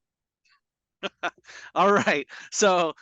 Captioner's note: chuckles